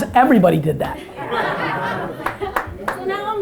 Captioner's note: audience laughter